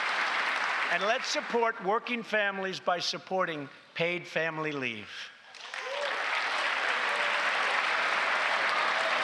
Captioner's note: applause